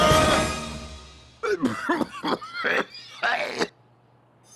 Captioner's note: cough